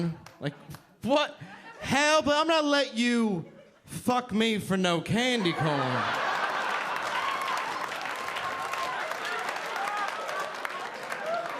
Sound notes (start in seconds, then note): 5.6 audience applauding